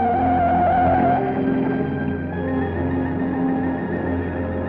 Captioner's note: tires screeching